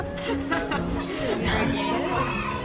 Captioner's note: laughter